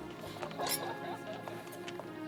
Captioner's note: glasses clinking; soft music